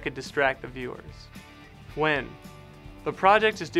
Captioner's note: voice-over